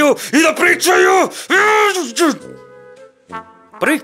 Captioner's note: rage